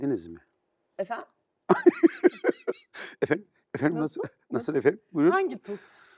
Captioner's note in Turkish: kahkaha